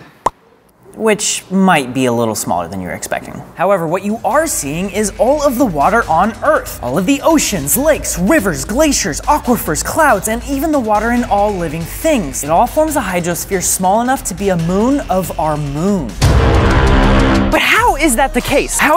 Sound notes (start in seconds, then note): 16.2 bwooooomp